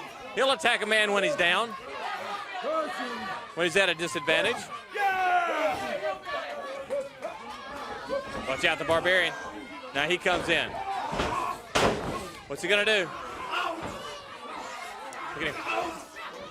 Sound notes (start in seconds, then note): 3.6 crowd chatter; 6.3 crowd chatter